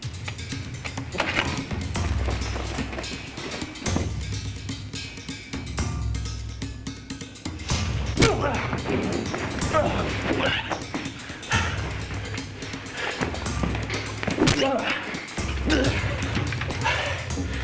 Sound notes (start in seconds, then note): 0.1 tense music; 8.1 Jason grunts; 14.3 Jason grunting